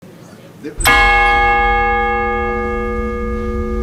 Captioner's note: bells chiming